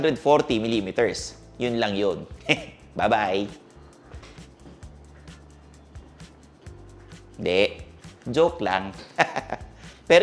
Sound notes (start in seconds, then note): 2.4 chuckles; 9.1 laughing